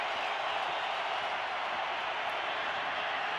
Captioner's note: crowd cheering